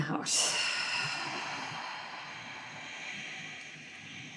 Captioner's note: both exhaling